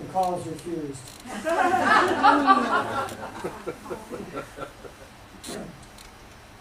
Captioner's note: laughter